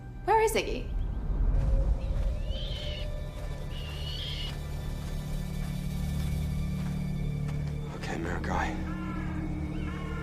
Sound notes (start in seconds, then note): 1.6 bird screeching; 8.4 crow cawing